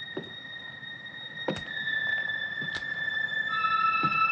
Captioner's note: footsteps